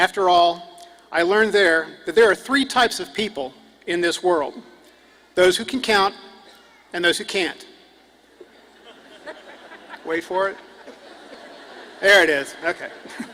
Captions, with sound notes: AND AFTER ALL, I LEARNED THERE THAT THERE ARE 3 TYPES OF PEOPLE IN THIS WORLD. THOSE WHO CAN COUNT... AND THOSE WHO CANT. [AUDIENCE CHUCKLES]. WAIT FOR IT, THERE IT IS!